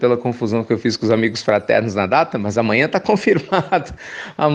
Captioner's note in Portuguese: Risos